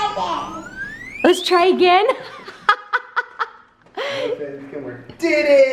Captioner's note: laughs